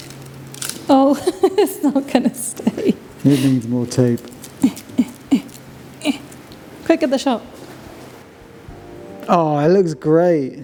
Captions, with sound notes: Oh, it's not gonna stay. You need more tape. (grunting) Quick get the shot. Oh, it looks great.